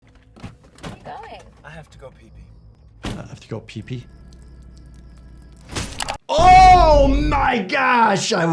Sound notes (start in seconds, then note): 0.2 car door rattling; 3.0 car door slams; 3.8 water trickling; 5.6 metal sheathing